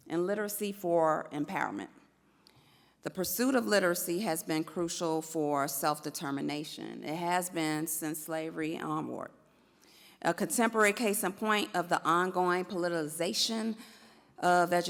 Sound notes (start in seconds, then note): none